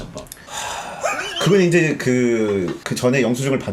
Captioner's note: sigh